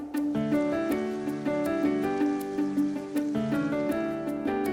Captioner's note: water running